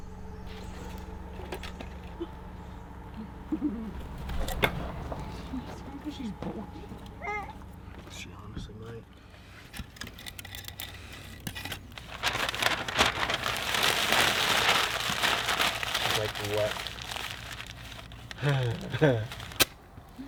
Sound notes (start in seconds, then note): 12.2 newspaper crackling; 18.3 chuckles